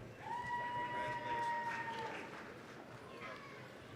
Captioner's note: applause, cheering